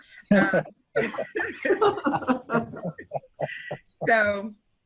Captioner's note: group laughing